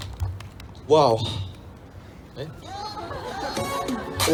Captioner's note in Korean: 웃음